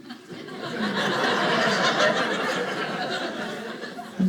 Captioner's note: audience laughing